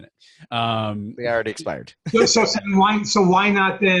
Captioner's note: laughing